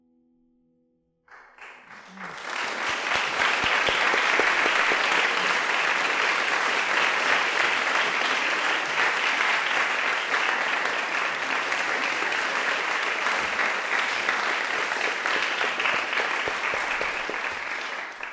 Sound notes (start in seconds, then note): 1.4 applause